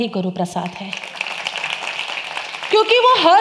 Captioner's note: applaud